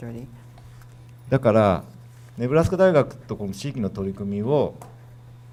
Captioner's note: speaking foreign language